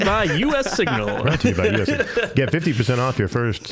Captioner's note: all laughing